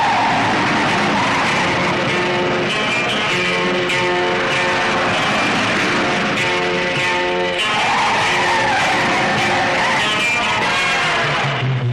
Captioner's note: car speeding and driving recklessly